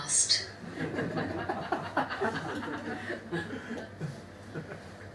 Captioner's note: audience laughs